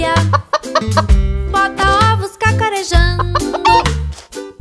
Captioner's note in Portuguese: som de galinhazinha; som de galinhazinha